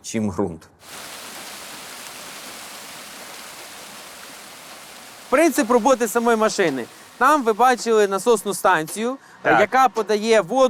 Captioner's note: water noise